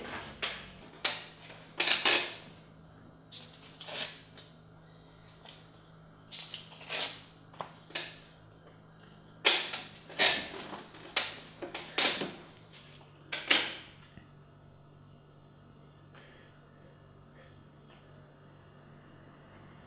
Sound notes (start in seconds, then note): 3.8 sticky note tears; 6.8 sticky note tears